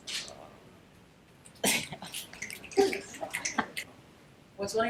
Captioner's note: background snaps